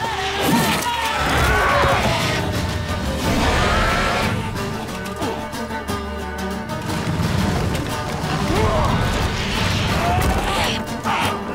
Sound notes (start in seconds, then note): 0.0 cries out; 3.1 roar; 4.9 grunt; 8.4 scream